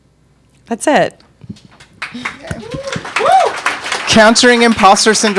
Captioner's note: audience applauding